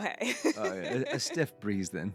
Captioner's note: both laughing